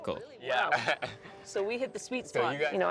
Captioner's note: laughing